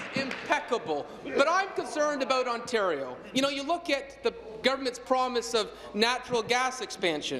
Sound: applause

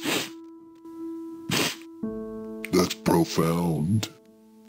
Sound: sniffling

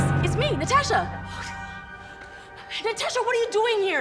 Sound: sighs

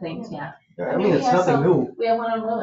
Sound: people chatter

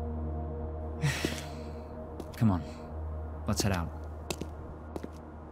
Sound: sigh

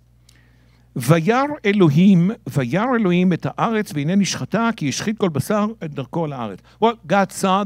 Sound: speaking in Hebrew

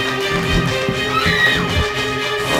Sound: scream

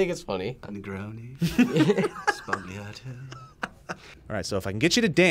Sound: both laugh

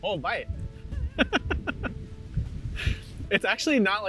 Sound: laughs

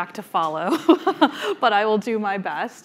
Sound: laughing

